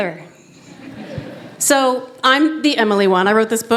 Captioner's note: laughter